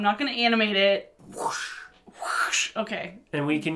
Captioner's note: whoosh